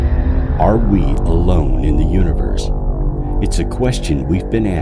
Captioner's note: voiceover